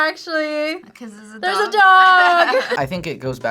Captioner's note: both laugh